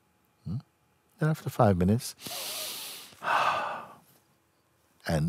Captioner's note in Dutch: ademt diep in en brengt handen samen